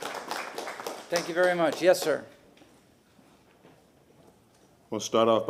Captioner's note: applause